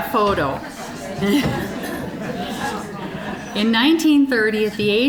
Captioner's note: general chatter; audience laughing